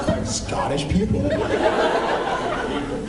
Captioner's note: laughs